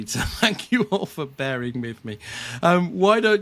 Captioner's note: chuckling